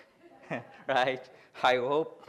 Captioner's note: laughs